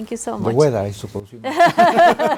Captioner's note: speaks Spanish; laughs